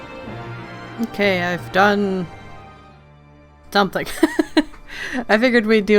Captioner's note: laughs